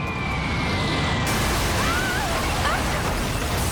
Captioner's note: female scream